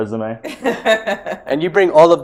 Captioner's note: laughs